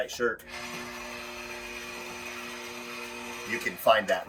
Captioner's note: motor whirring